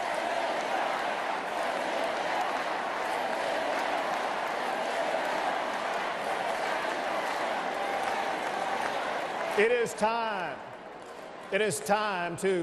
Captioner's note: applause